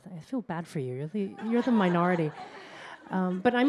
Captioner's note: laughter